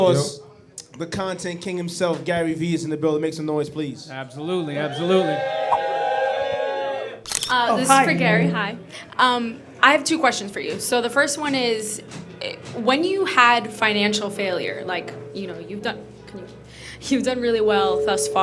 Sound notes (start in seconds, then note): 5.2 crowd cheers; 7.2 camera clicks